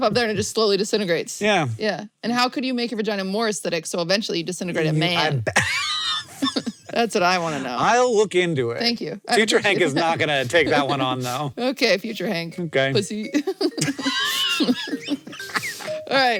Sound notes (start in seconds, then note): 5.4 laughs; 13.1 both laugh